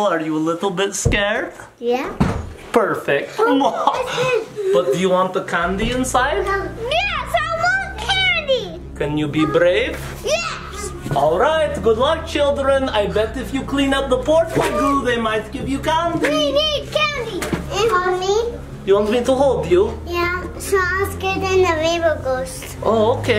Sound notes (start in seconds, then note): 3.4 laughs